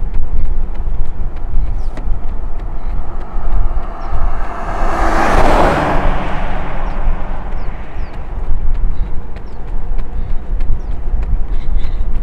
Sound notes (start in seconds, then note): 4.8 road noise